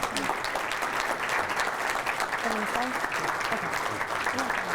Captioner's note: audience applause